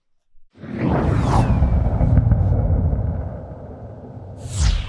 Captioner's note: deep whooshing sound